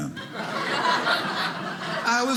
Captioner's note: audience laughing